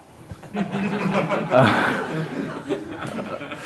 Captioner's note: laughter